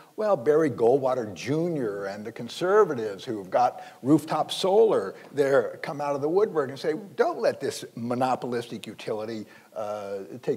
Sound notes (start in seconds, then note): none